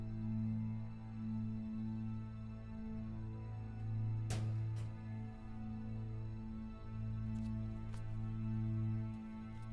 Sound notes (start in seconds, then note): 4.2 locker shuts